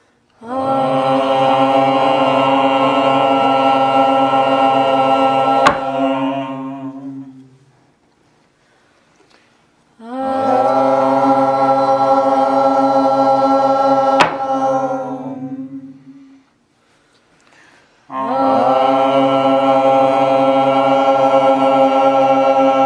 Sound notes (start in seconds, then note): 0.3 all toning; 5.6 hammer strike; 5.7 all toning; 10.0 all toning; 14.0 all toning; 14.2 hammer strike; 18.1 all toning